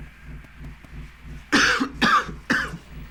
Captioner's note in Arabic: يسعل